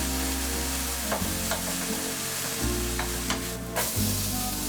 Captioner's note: mushrooms sizzling